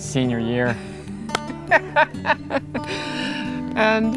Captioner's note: laughter